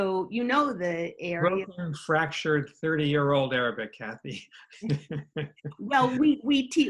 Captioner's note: laughs